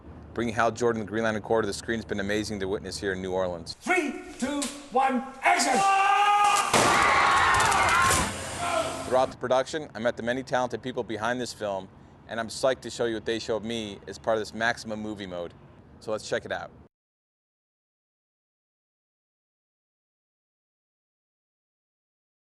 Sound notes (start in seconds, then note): 5.4 all shouting